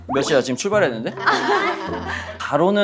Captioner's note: laughing